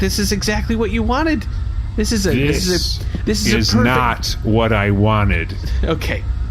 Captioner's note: shouting; laughing